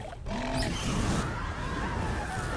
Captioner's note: Vermithor growling; flames roaring; people screaming